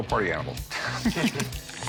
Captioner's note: chuckles